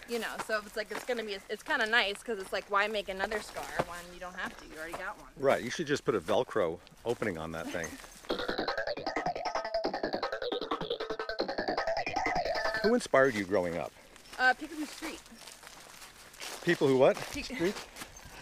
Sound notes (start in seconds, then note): 7.9 Lindsey laughs; 8.4 energetic music